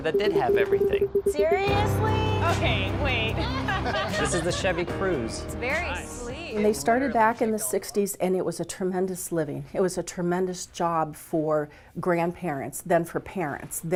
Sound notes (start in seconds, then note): 3.4 laughing